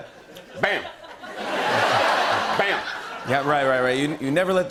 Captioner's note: laughter